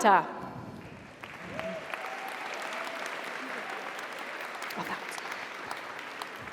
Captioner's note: audience applauds; audience cheers